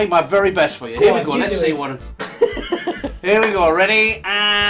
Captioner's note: laughing